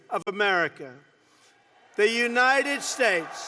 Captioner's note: applause